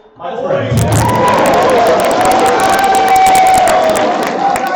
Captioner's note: applause